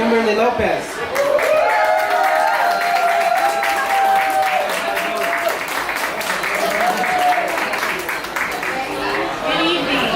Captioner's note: applause